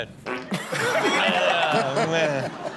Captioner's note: farts; everyone laughing